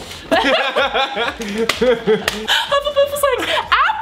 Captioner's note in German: lacht